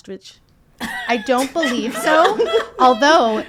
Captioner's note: people laughing